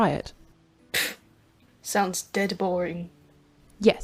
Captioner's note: scoffs